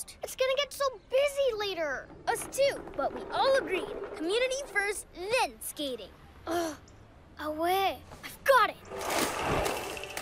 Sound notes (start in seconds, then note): 6.3 groans